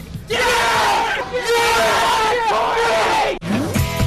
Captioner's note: cheering